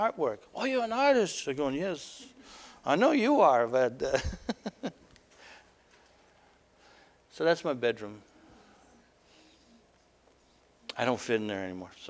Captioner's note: laughter